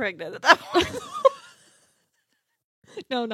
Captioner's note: laughs